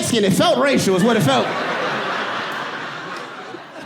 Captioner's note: audience laughing